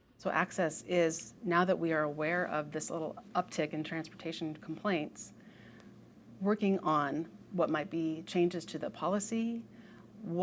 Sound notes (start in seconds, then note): none